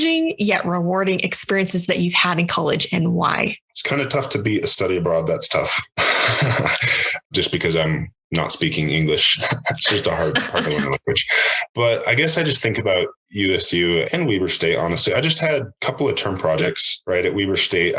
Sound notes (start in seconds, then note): 5.5 laughs